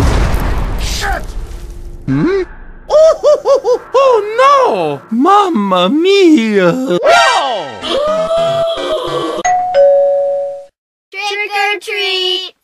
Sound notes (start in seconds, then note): 9.4 ding Dong